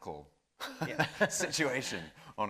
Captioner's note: laughing